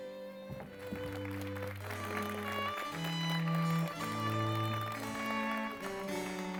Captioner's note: applause